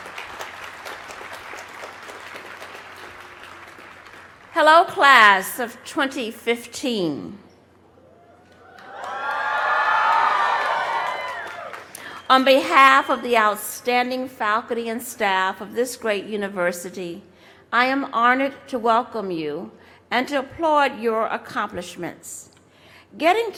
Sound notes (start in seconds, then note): 0.0 applause; 6.9 cheers and applause